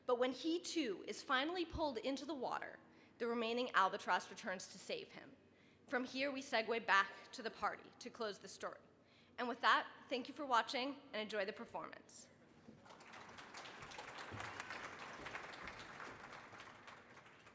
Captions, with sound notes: But when he too is finally pulled into the water the remaining albatross returns to save him. From here we segue back to the party to close the story. And with that thank you for watching, and enjoy the performance. (audience applauding)